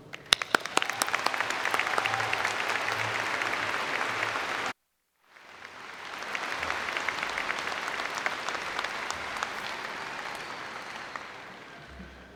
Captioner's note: applause